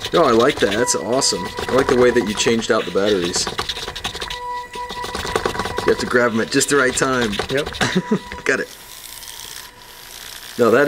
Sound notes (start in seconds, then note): 4.4 robot whirs; 7.7 laughing; 9.9 robot whirs